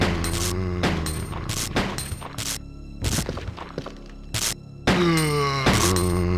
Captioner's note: gunshots